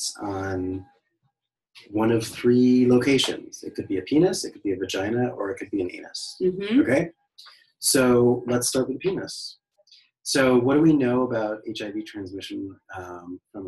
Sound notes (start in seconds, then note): 7.8 noise of agreement